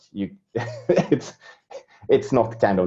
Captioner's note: laughing